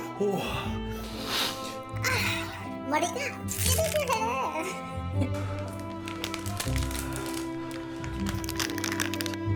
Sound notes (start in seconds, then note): 0.8 inhale MAX